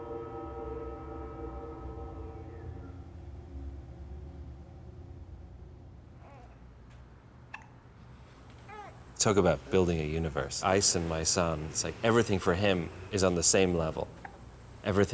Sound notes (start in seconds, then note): 8.6 baby cooing